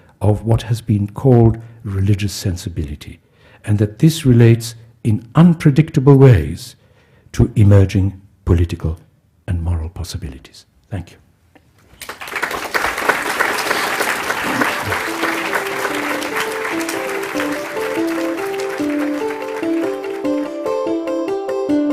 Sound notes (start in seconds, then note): 11.9 audience applauding; 16.2 upbeat instrumental music